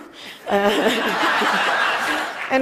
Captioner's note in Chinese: Laughter; 笑聲